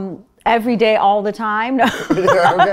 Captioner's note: laughing